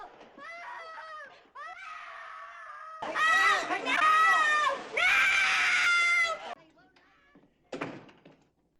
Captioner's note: distressed screams